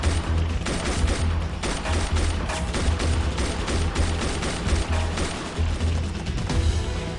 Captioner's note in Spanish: Disparos